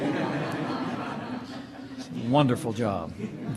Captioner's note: laughter